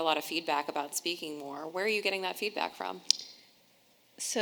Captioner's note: none